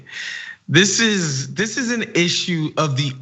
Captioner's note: laugh